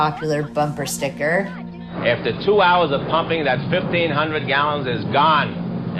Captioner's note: soundbite of archived recording